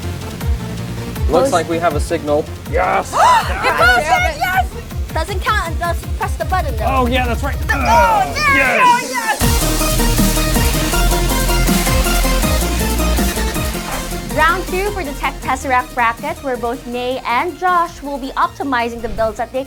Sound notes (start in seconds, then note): 3.1 gasp